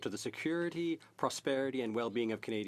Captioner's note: speaking French